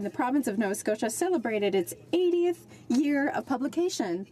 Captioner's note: speaking French